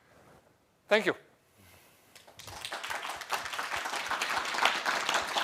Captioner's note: applause